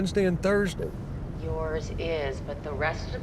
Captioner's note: on phone